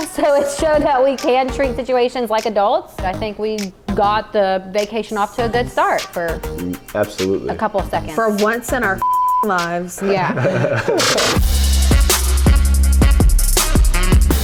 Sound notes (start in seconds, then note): 9.0 beep; 9.9 laughing; 11.9 upbeat music